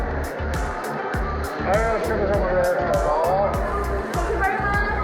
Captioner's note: men speaking Japanese